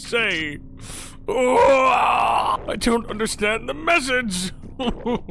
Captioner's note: Skull yells; sobs